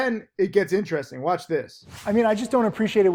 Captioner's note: air whooshes